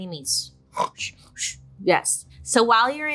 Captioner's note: imitates snoring